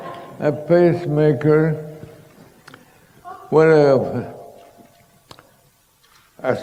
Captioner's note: laughter